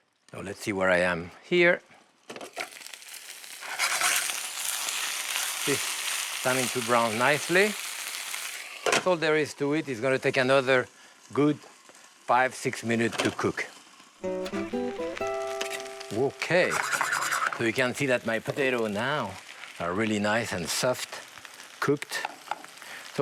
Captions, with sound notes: NOW LET'S SEE WHERE I AM HERE. [sizzling] STARTING TO BROWN NICELY. THAT'S ALL THERE IS TO IT. IT'S GOING TO TAKE ANOTHER GOOD 5, 6 MINUTES TO COOK. OKAY. SO YOU CAN SEE THAT MY POTATO NOW ARE REALLY NICE AND SOFT COOKED.